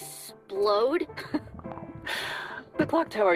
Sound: chuckles

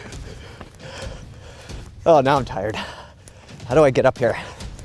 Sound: panting

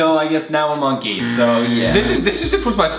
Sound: buzzing loudly

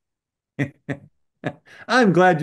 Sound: laughs

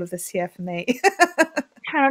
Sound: laughs

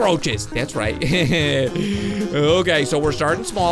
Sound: laughs

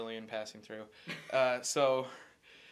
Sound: laughing

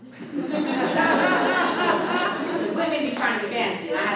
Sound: audience laughing

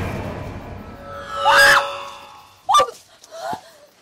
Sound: screams

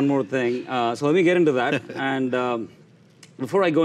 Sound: laughs

